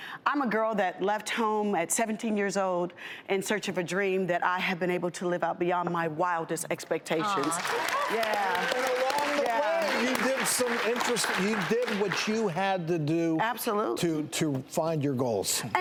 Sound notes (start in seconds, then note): 7.4 clapping